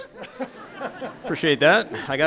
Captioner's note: audience laughs